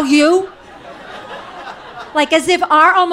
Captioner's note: audience laughing